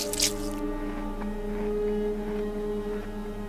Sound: crunching

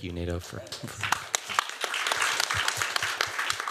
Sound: applause

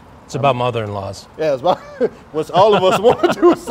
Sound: laughing

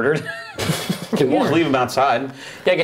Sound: laughing

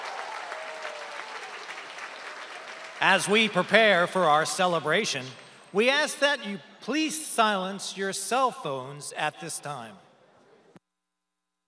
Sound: applause

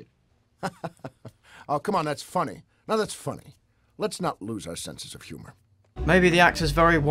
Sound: laughs

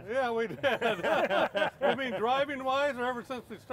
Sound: laughter

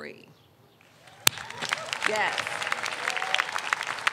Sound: audience applauds

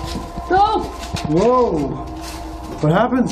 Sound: shouts

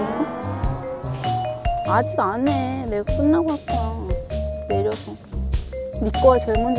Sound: whine Whine

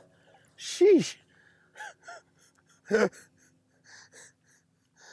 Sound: giggling

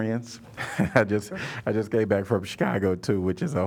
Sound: laughter

